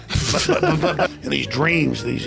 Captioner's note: laughter off camera